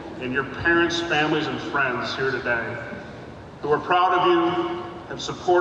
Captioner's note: none